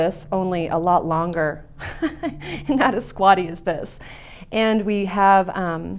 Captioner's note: laughs